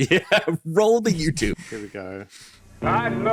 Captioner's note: laughing